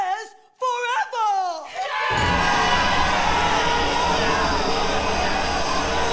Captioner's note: crowd screams; intense music